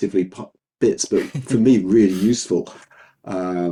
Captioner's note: laughing